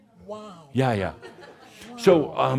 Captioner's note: some laughter